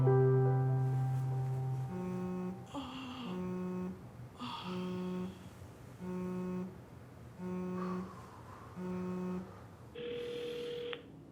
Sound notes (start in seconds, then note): 0.1 phone ringing; 1.8 phone buzzing; 4.4 Mia exhaling; 7.1 phone buzzing; 9.5 Mia exhaling